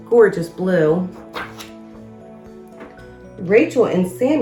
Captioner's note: uplifting instrumental music; pages shuffles